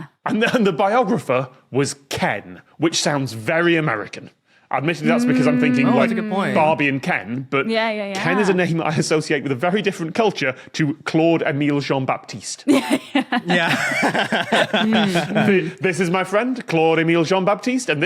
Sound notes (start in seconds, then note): 12.7 laugh